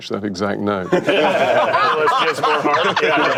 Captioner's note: laughter